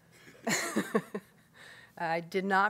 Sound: laughs

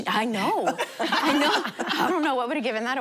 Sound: laughing

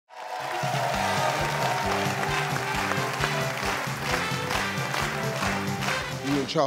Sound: audience applauds; upbeat music

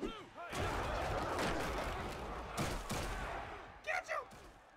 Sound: cheering and crashing

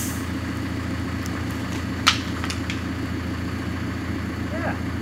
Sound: engine running

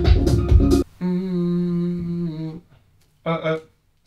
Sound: humming

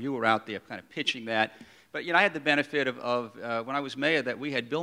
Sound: none

